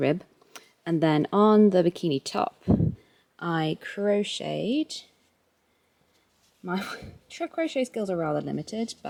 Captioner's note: wind/mic noise